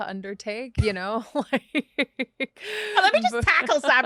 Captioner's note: both laughing